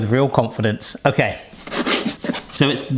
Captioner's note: knife scraping on board